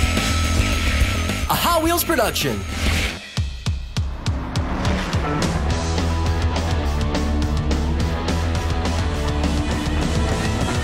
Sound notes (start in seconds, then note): 0.2 intense music; 4.2 car revving